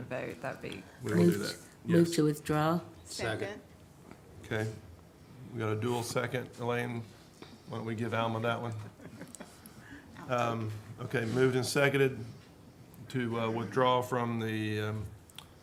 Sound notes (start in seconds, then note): 8.7 laughs